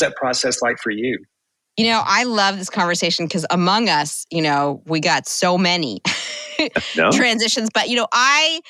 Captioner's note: chuckle